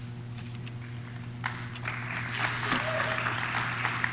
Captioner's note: audience claps